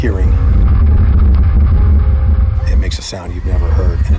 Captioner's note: fire roaring